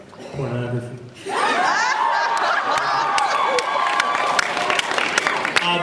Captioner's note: laughs, cheers